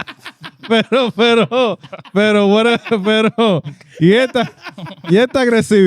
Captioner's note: laughing; speaking In Foreign Language